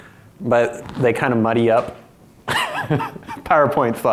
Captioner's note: laughs